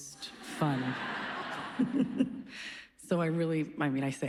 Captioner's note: laughs